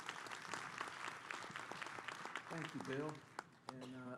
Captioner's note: applause